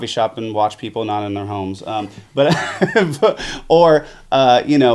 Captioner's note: laughs